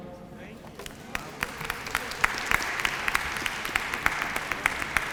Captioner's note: applause